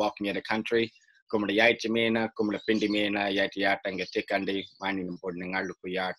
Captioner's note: speaking in a native language